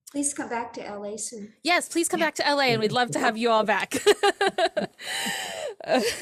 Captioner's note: laughs